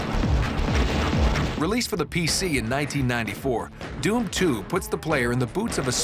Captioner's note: gunfire